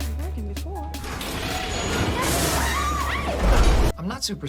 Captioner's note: screams